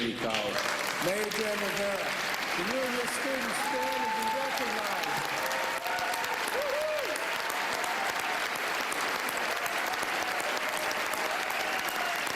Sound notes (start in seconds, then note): 9.3 applause